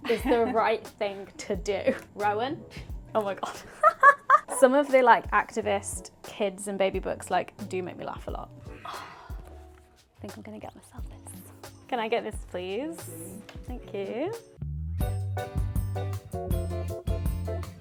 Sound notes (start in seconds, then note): 0.0 laughs; 3.8 laughs; 8.7 sighs; 14.7 jazzy Latin music